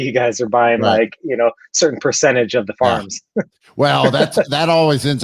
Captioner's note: laughs